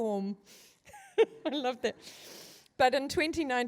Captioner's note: chuckles